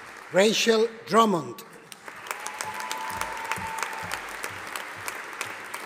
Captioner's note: audience applauding